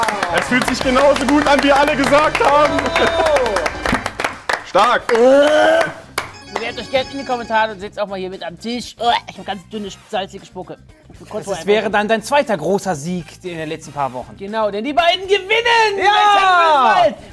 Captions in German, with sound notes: Es fühlt sich genauso gut an, wie alle gesagt haben. Stark. (Würgen) Bewerbt euch in den Kommentare und sitzt auch mal mit am Tisch. Ich hab ganz salzige Spucke. Das wäre dann dein zweiter großer Sieg in den letzten Wochen. Denn die beiden gewinnen bei "7 vs. Wild"! - Ja!